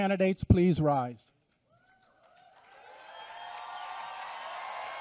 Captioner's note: applause and cheering